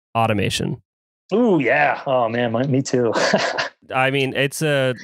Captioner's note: laughs